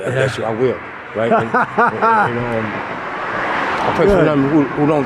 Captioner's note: interviewer laughing